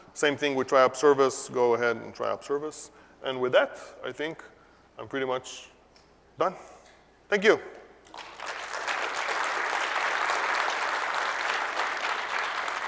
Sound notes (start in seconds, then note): 8.0 applause